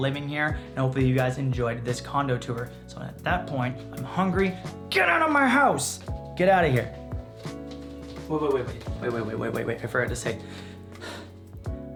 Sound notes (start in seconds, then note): 10.9 sighs